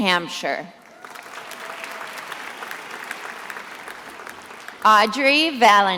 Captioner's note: attendees applauding